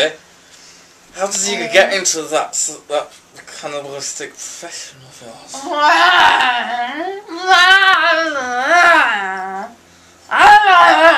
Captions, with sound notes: So, Zombie, how did you get into that cannibalistic profession of yours? [Groans]